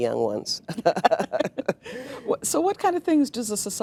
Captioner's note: laughing